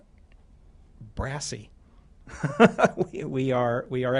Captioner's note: laughter